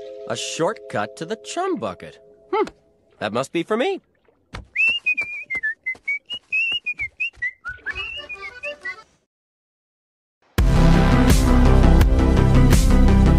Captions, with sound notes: A shortcut to the chum bucket? That must be for me! *whistles*